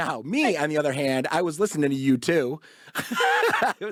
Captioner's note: laughs